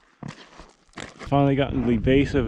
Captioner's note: footsteps thumping